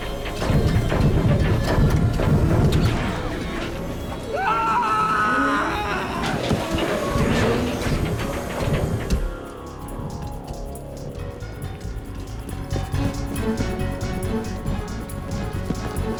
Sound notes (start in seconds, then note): 4.3 male scream